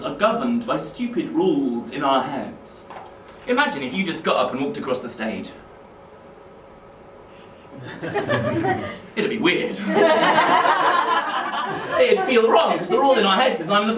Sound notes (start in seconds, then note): 7.7 nervous laughter